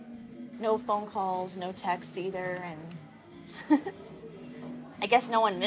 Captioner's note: giggles